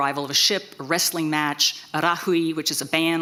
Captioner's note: speaks in foreign language